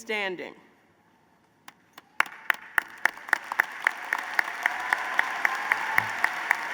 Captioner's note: applause